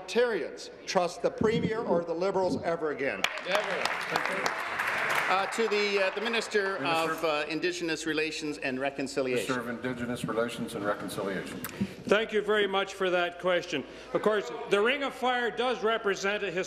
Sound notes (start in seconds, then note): 7.6 applause